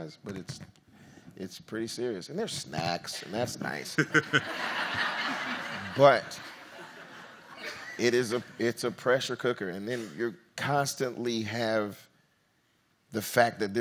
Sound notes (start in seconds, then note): 3.9 audience laughs